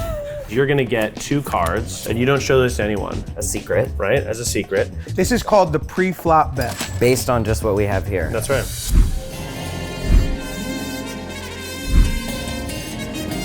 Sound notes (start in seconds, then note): 6.6 cash-register bell ringing